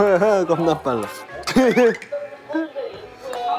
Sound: room is filled with happy giggles

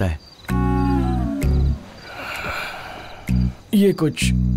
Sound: sad music playing; deep breathing

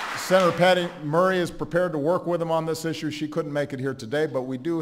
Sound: applause

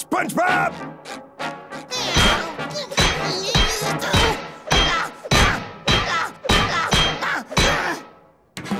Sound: grunting

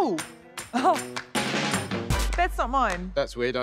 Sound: chuckles

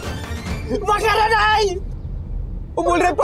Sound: speaks Japanese

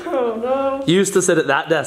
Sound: laughs

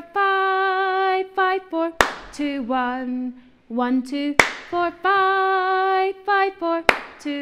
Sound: clap; clap; clap

